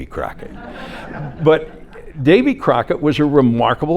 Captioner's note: audience laughing